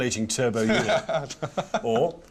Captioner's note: laughing